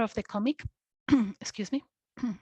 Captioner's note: clears Throat